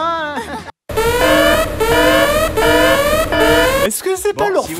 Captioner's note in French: Voix malsaine; Sirène qui hurle